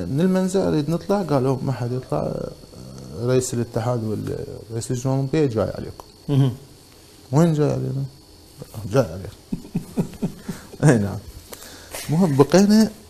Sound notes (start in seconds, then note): 9.4 laughs